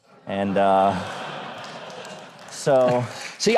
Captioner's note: audience laughs